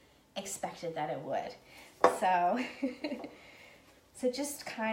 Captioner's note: laughing